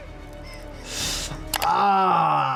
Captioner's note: video graphic clicks; tense music plays; sucks in air; video graphic clicks